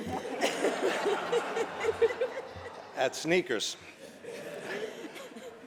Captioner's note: laughter